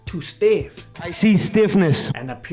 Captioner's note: too late to back down noises